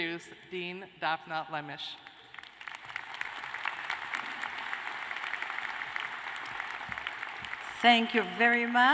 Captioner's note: applause